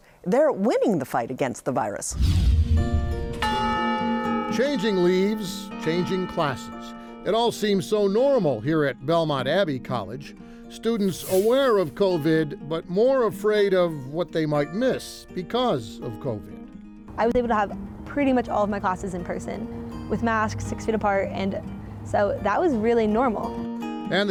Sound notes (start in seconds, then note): 3.1 gentle music; 3.4 bell ringing